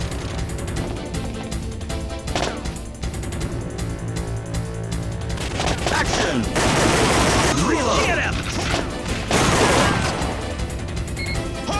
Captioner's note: game audio